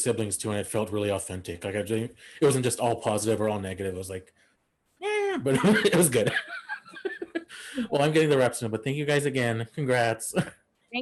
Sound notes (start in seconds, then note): 5.4 all laugh